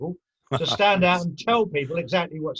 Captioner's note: laughing